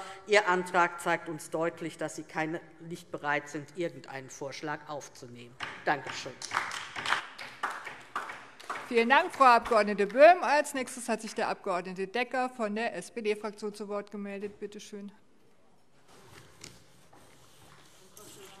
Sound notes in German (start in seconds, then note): 6.0 Beifall DIE LINKE